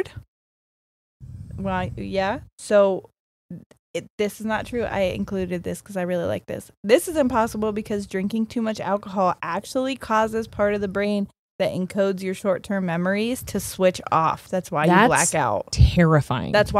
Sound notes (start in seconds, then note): none